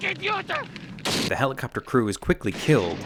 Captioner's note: gun shooting